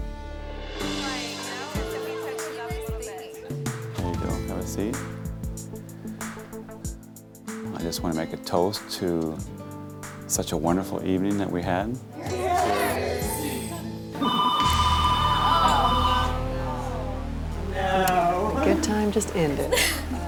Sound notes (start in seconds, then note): 1.0 women chattering; 13.2 dramatic music; 14.2 phone ringing